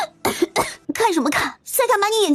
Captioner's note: coughing